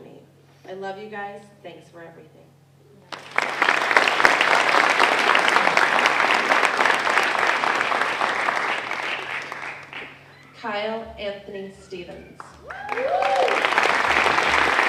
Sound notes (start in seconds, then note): 3.0 applause; 12.6 applause